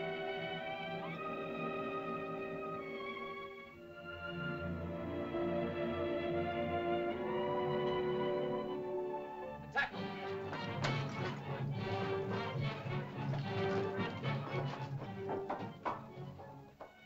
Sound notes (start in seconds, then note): 0.0 tense music; 3.8 sentimental music; 9.8 Tumak speaks in caveman language; 9.8 suspenseful music